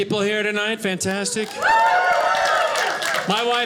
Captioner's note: audience laughing